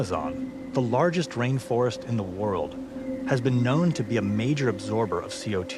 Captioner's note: water whooshing